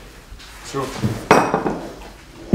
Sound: plate clinks

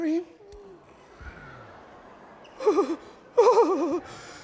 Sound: weeping

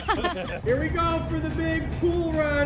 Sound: laughing

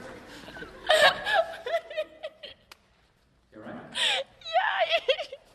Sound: laughs

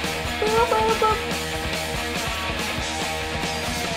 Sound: imitating guitar

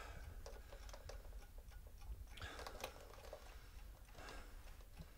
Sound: man gasps; clock ticks rhythmically; man pants

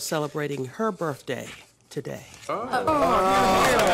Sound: applause

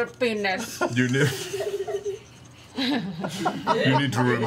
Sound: all laugh

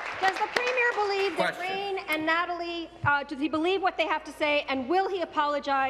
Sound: applause

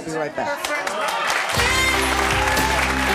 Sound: clapping; energetic music

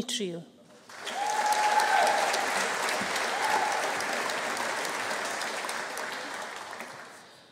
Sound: audience applauding; audience cheering

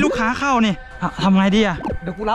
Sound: pat

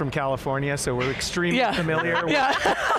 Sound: all laughing loudly

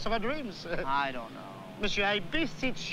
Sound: chuckles

